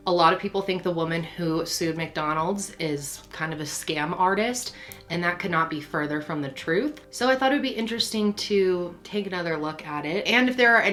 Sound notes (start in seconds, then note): none